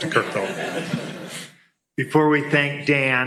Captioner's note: laughter